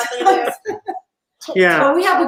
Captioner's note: laughs